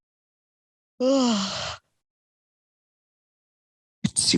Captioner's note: yawning